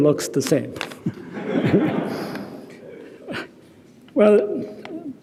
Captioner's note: audience laughing